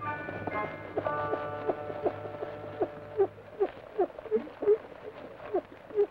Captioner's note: rocker box squeaks rhythmically